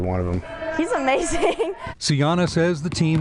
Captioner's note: laughing